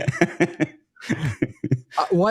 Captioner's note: both laughing